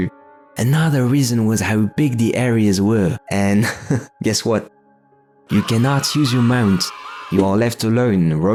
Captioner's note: giggle